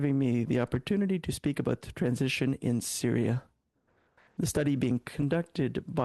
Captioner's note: speaking French